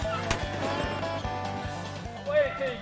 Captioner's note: gun fires